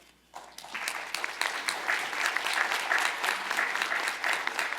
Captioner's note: applause